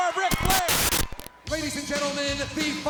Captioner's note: lively music; static crackling; graphics hissing